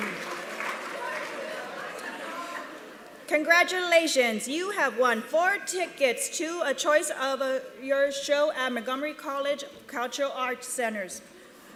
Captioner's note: applause